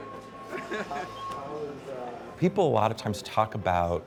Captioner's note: people chattering